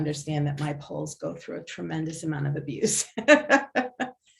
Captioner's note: laughs